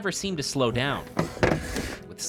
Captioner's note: scrap sound